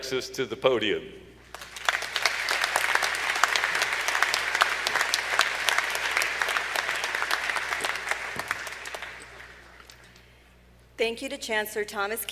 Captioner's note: applause